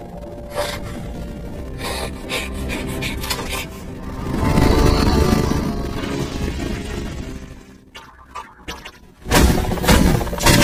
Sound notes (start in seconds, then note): 1.8 panting; 7.9 Gloink boinking softly